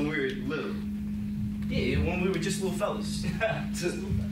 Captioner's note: laughs